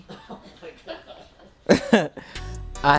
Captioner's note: distant laughter